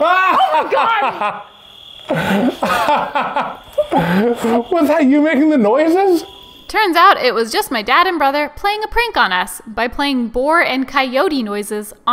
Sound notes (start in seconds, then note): 0.0 laughs; 2.0 laughing